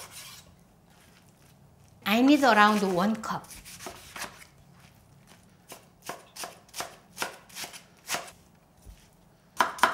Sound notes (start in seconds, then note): 6.3 knife tapping